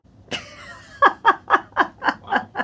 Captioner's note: laughing